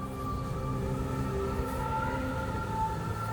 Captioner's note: heavy winds